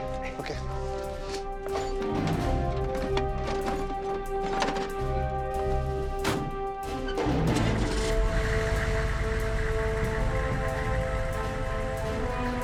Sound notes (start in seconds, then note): 3.4 thud sound; 10.5 bell